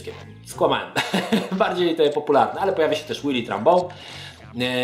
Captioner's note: chuckles